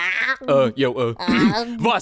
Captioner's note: clears throat